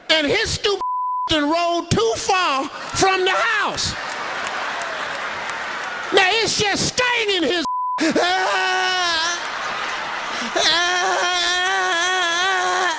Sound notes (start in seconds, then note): 0.8 beeping; 2.8 audience applauding; 3.7 audience laughs; 7.6 beeping; 8.3 Steve imitates Ricky groaning